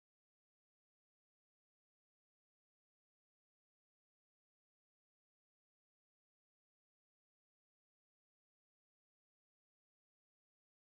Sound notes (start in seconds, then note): none